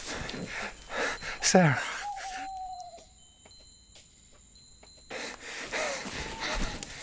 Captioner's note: owl hooting